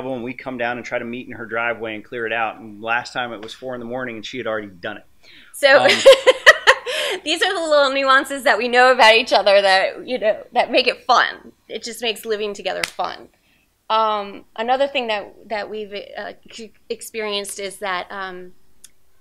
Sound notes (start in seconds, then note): 5.8 laughs